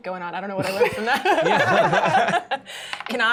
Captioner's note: laughter